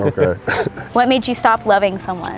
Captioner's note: both chuckle